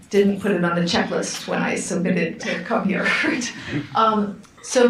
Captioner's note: laughs